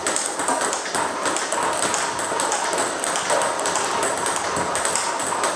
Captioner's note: ball ping pong hitting continues